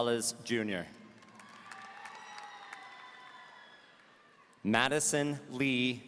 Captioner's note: audience cheering